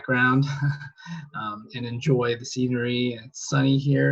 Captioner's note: laughs